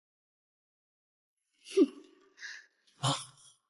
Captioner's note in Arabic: تضحك بسخرية